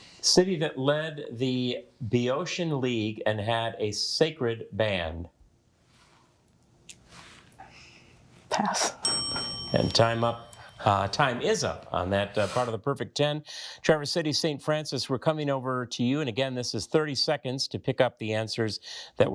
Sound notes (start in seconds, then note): 9.0 bell dings